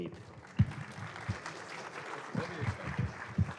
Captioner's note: applause